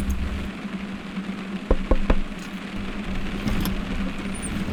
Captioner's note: sound of heavy rain